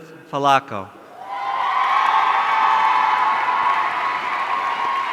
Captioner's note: audience cheering